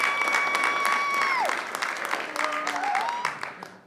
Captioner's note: cheering; clapping